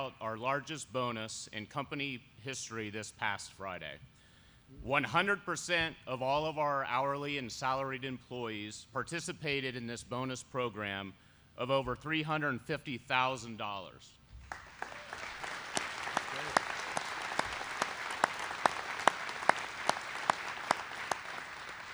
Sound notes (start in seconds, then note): 14.4 applause